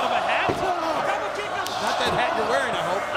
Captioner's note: wrestlers groan